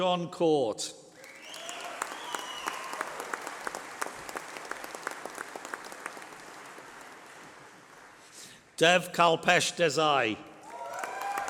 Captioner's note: applause